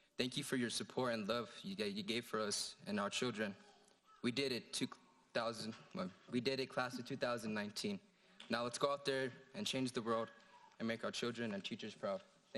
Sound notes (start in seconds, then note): 5.4 stammering